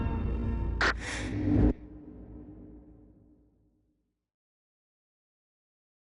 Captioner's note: quick inhale of oxygen